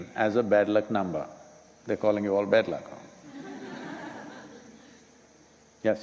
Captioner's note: laughter